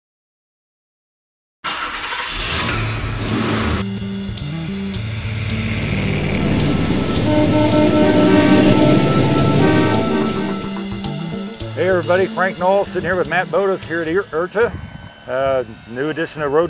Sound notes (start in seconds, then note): 0.0 car Honking, Revving and Road Noises